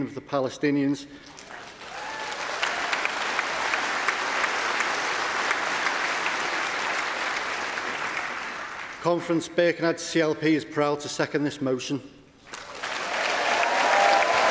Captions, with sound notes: In Pretoria in 1997, Nelson Mandela, a man who well understood oppression said that we know all too well that our freedom is incomplete without the freedom of the Palestinians. (Applause) Understand